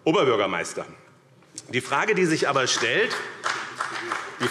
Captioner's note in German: Beifall BÜNDNIS 90/DIE GRÜNEN und CDU